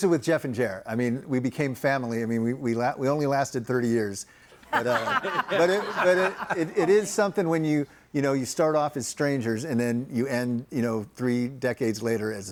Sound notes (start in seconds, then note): 4.6 group laughs